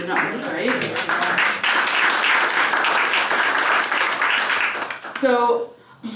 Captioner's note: applause